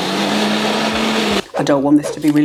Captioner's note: blender roaring